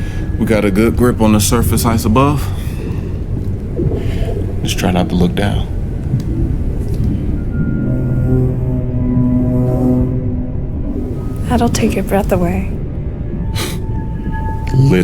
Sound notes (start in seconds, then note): 8.0 sub humming